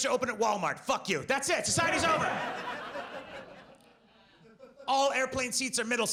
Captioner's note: audience laughs